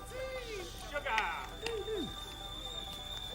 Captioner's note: tea kettle whistling